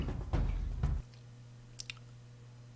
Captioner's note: lip smack